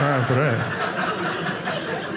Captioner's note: audience laughing